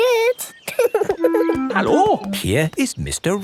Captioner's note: laughing